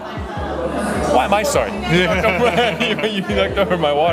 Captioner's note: both laugh